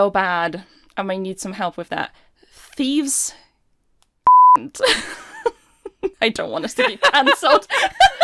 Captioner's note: laughing